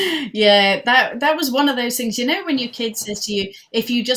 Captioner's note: laughing